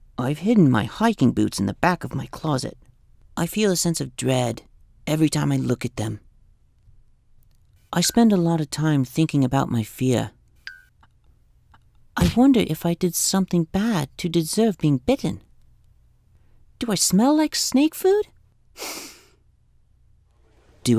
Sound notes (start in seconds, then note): 15.7 kick impact sound; 18.7 sniff